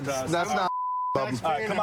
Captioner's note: chatter